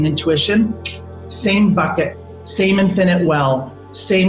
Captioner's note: clicks tongue